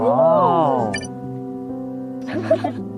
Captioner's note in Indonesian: Tertawa